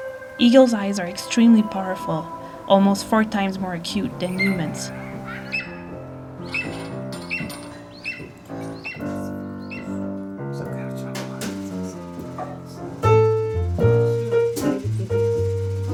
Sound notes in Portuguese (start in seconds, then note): 6.1 Pio de águia; 10.6 Jazz instrumental